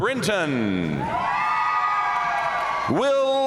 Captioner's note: audience cheering and applauding